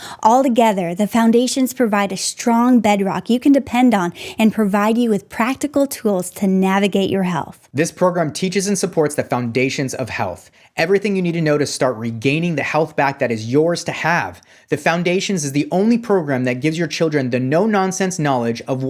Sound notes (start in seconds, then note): none